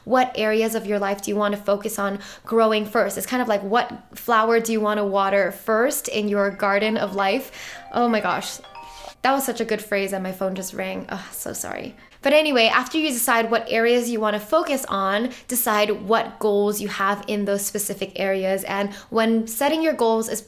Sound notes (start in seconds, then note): 6.5 phone ring